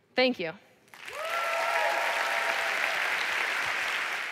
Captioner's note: applause